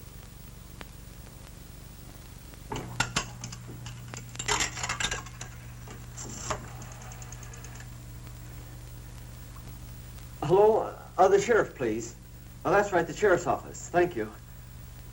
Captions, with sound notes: (rotary phone dialing) - Hello, the sheriff please. That's right, the sheriff's office, thank you.